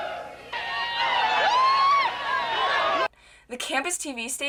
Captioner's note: cheering